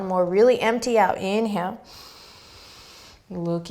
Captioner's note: inhaling